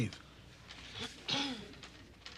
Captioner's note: clearing throat